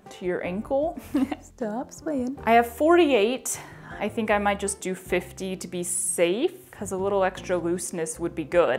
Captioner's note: chuckle of hope